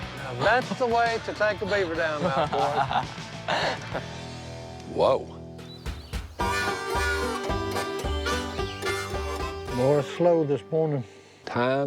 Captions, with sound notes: That's the way to take a beaver dam down, boys. - Whoa. [upbeat music] [light upbeat music] [birds tweeting]